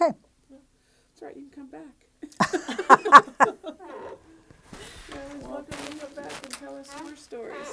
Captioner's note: laughing